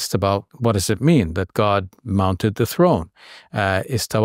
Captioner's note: talks Arabic